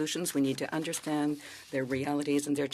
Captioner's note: speaking French